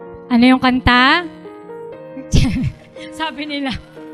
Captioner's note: laughter